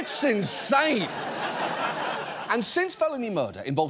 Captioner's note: audience laughs